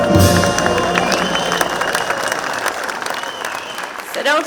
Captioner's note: audience clapping